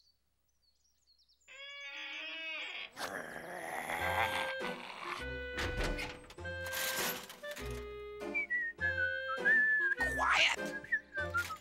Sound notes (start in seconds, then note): 2.8 growling; 8.2 whistling continues